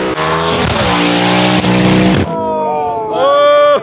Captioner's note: car zooming; all whooping and cheering